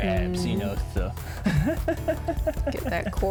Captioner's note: laughs